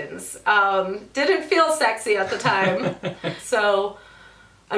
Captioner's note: laughs